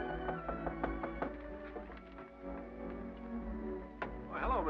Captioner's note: someone knocks